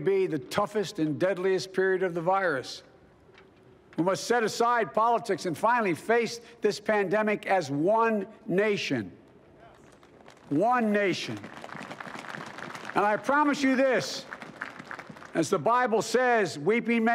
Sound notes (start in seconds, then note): 9.8 applause